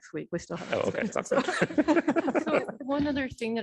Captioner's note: laughter